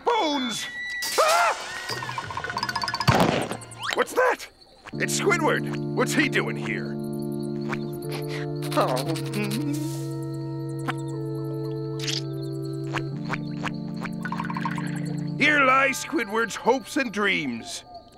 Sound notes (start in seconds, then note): 0.1 squeaking; 7.7 crying